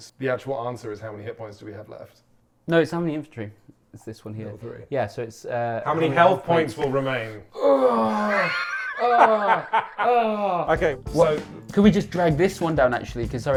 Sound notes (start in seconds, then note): 7.5 groaning; 8.1 laughing